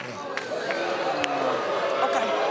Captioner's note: audience groans